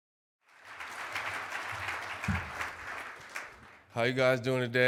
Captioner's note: clapping